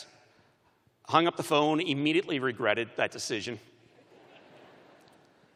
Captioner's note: laughter